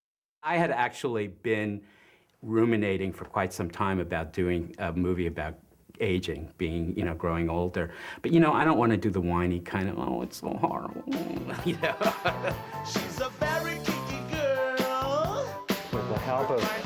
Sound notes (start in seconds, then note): 10.6 laughs; 10.8 groan